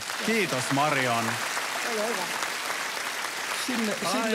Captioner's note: applause